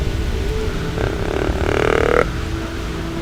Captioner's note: sound of grunt call